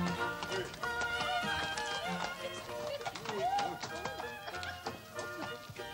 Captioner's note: laughing